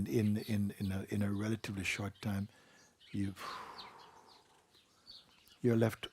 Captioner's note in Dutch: ademt uit en gebaart uitbreiding